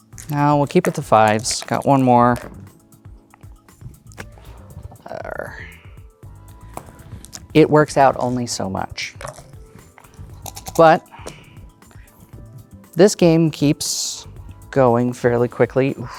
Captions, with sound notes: No, we'll keep with the 5's. (dice rattling) Got one more. (dice rolling) Er... It works out only so much. (dice clattering in cup) But... (dice rattling) (dice rolling) This game keeps going fairly quickly.